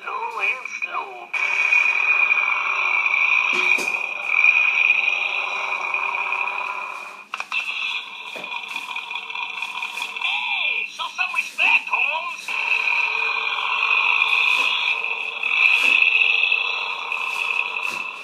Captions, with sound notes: Low and slow (engine roaring) (engine revving) Hey, show me some respect homes (engine roaring)